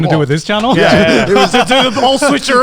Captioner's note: laughing